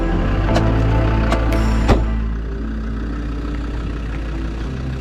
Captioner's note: car doors slamming